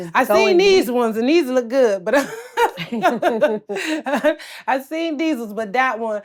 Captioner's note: laughs